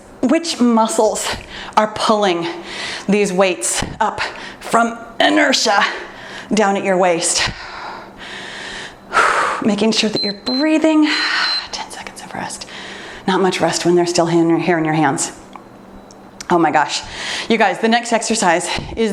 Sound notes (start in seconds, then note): 7.6 exhales deeply; 10.0 timer beeps